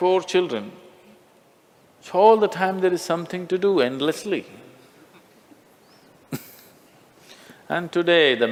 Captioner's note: Smích